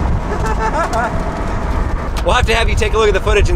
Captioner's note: laughing